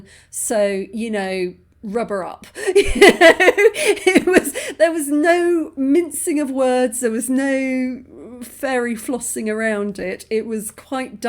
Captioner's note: laughing